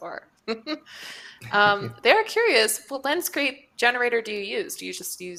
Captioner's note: chuckles